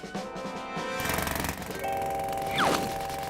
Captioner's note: jackhammer hammering